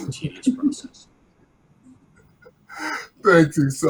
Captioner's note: laughs